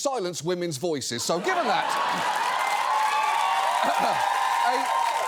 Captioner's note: audience cheers